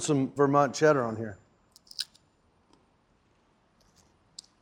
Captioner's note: crunching sound